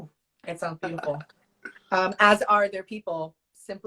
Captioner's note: laughs